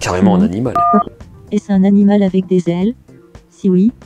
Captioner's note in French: son de touche de téléphone